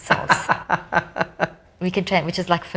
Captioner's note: laughs